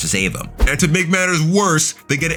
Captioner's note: air whooshing